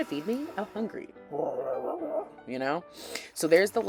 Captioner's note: growls